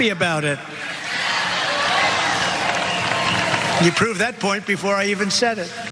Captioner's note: applause